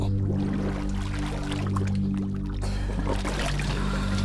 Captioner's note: water bubbling